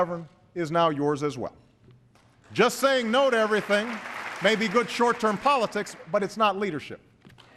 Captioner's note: applause